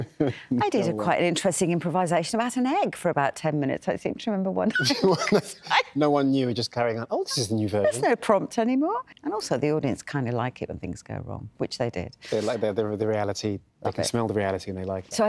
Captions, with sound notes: I did quite an interesting improvisation about an egg for about ten minutes, – I seem to remember one time. – [LAUGHS] No-one knew, you were just carrying on, oh, this is a new version. There's no prompt any more. And, also, the audience kind of like it when things go wrong, which they did. They like the reality. They can smell the reality and they like it.